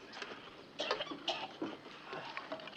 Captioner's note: len coughing